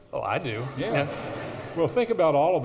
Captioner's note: audience laughs